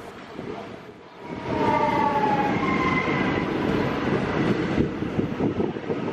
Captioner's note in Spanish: sonido del tren entrando a la estación